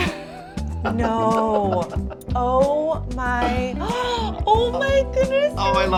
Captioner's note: laughs; gasps